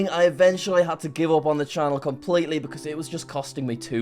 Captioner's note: none